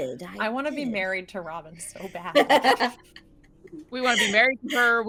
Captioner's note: laughing